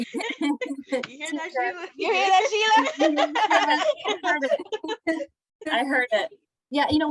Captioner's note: laughter; laughter